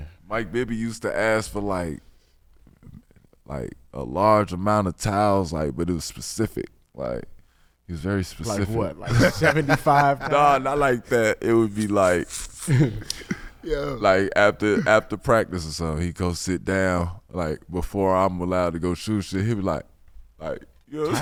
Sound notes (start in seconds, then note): 9.0 laughing